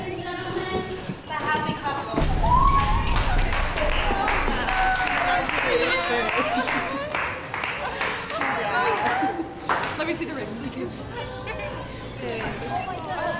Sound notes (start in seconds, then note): 2.3 cheering; 9.5 laughing